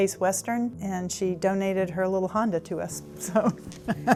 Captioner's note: laughs